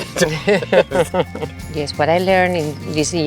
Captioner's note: laugh